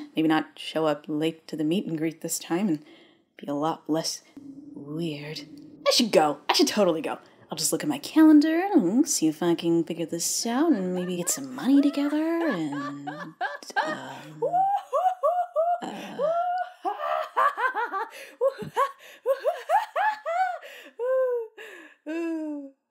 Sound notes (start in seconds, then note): 4.1 haunting wind; 10.6 loud laughter fades in; 13.1 laughter gets closer